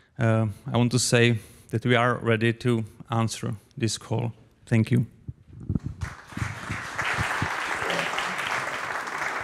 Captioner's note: applause